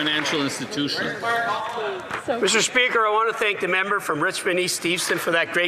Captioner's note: applause